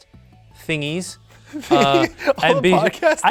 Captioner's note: laughs